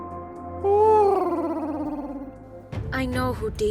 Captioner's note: Huti hoots